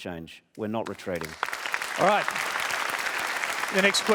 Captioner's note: applause